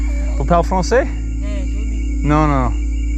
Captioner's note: speaking French